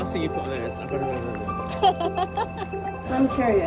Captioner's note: laughter